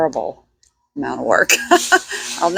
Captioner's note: laughs